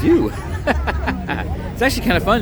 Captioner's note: laughing